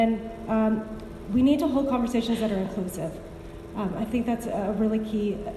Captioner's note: none